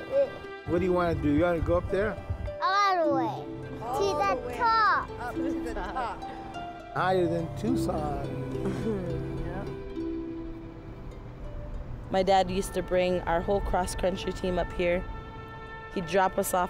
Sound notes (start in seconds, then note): 5.0 laughs; 8.5 chuckles